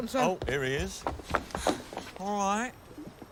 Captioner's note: pants